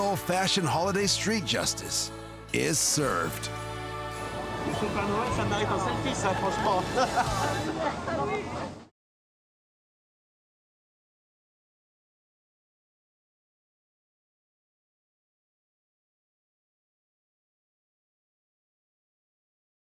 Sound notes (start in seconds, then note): 5.3 speaks in foreign language